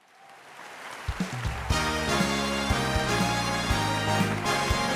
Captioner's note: audience clapping and cheering; upbeat energetic music